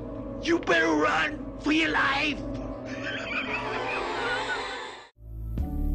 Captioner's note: laughs evilly